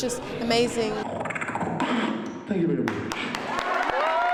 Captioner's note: beatboxes; cheering and applause